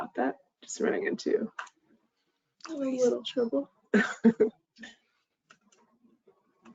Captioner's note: chuckles